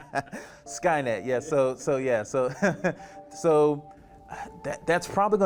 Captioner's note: laughing; laughing